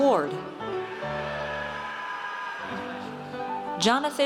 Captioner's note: audience cheers